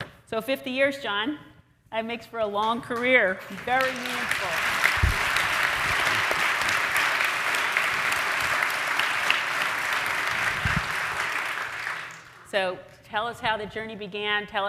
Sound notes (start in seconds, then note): 3.5 audience applauds